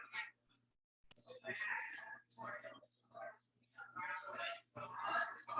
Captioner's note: people chattering indistinctly